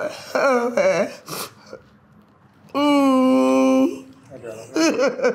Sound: sobbing

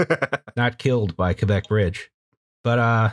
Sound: laughter

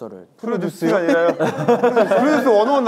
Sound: laughter

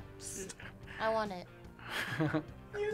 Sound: whispers; React laughs

